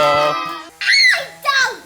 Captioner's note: screaming